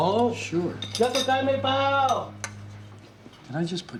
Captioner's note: speaking Chinese